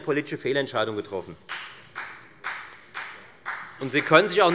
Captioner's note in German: Beifall des Abg